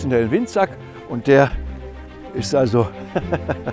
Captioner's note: he laughs